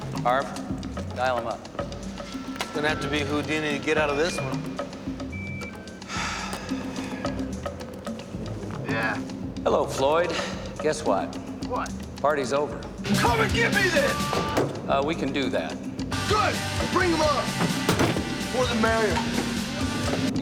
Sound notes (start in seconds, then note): 4.4 phone dials; 5.8 sighs; 7.9 line ringing; 13.0 hard rock plays